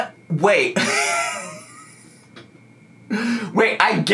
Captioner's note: laughing